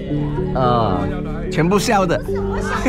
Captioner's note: laughs